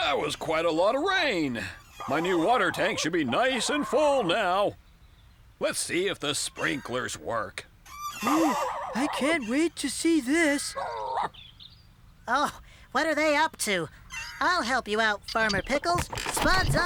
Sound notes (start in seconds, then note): 11.1 Scruffty Barking